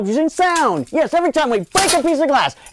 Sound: glass breaking

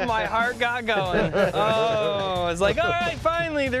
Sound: laughter

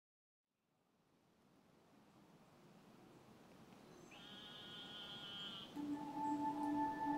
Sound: birds chirping/Wind

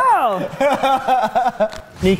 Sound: laughing

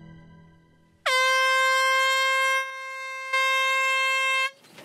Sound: dramatic music fades; horn tooting

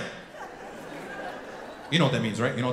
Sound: audience laughing

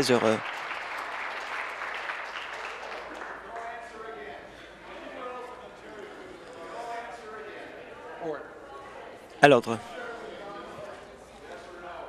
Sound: some Applause

